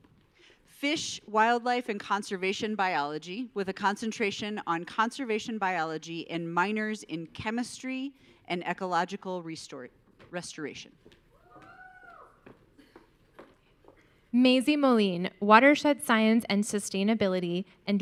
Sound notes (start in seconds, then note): 11.5 audience cheering